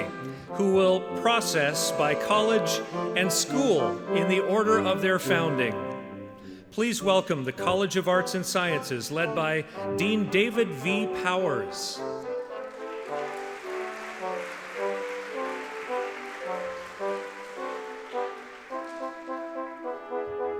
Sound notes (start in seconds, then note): 15.8 audience clapping